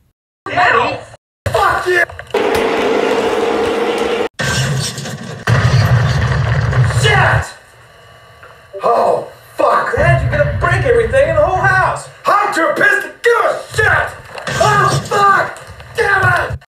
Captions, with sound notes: Danny! FUCK YOU!!! *Loud Crashing* SHIT!!! Oh fuck! Dad you're gonna break everything in the whole house! I'M TOO PISSED TO GIVE A SHIT!!! *Crash* OH FUCK!!! DAMNIT!!!